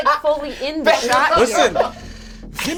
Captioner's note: laughs